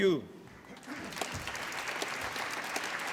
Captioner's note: applause